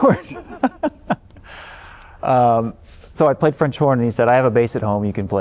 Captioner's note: laughter